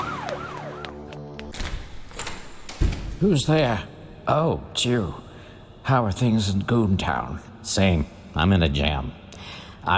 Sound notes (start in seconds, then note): 1.4 door opening and closing